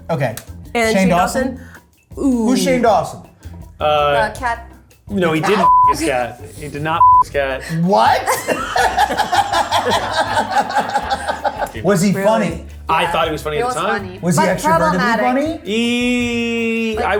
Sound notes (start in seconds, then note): 5.6 beep; 8.2 laughs